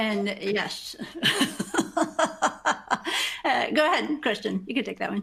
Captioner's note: laughs